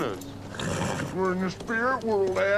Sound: horse neighs

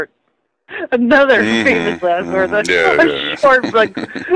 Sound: laughs again

